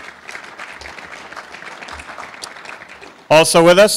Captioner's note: applause